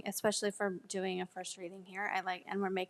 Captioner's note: none